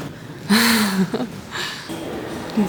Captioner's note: laughs